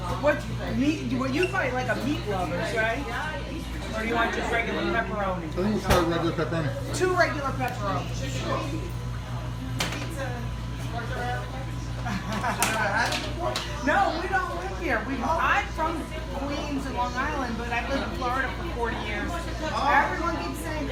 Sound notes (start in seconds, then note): 12.0 laughs